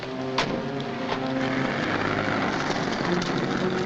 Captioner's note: car door slams shut; dramatic music